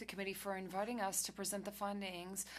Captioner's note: speaking FRENCH